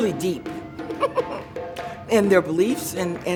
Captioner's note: laughing